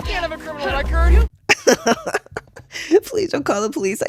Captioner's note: laughter